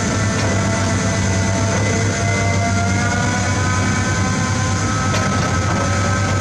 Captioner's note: engine Rev